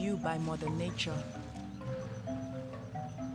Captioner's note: footsteps on grass